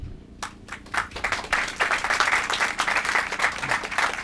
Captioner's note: applause